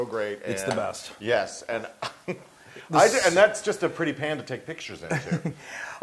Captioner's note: laugh